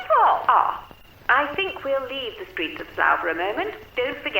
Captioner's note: radio Announcer